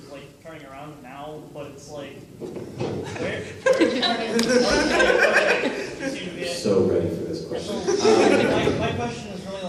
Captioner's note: laughter